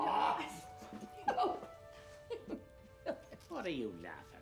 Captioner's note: giggling